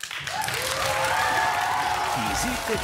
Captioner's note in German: Applaus